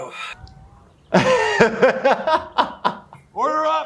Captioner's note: laughing